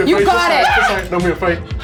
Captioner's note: screaming